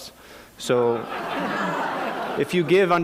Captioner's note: laughter